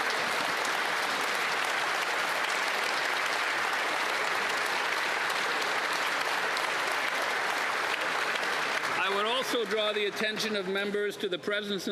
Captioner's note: applause